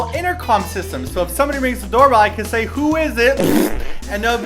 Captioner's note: poop sounds